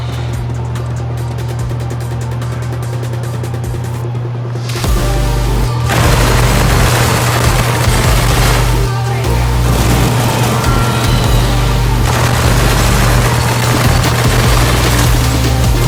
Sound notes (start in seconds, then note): 4.8 engine revving